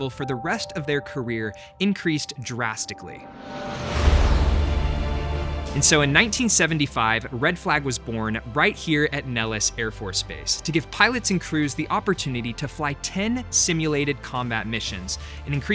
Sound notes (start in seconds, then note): 3.7 jet engine roaring